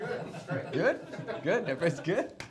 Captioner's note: audience laughs